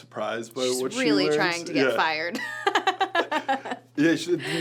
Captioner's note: laughs